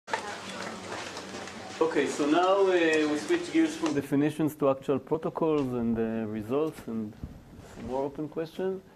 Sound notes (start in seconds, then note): 0.0 background chatter